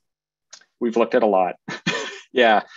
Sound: chuckles

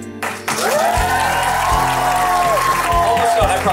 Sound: crowd cheering

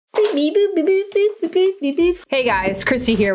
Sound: speaking gibberish

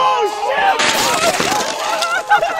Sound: loud cheering; car breaking; laughter

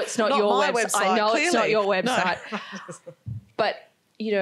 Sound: laughs

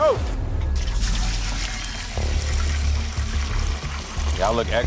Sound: water pours

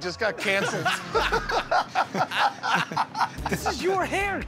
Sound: laughter

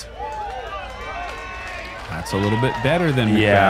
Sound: cheering

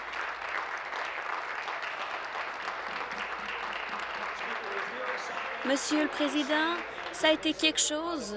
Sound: applause

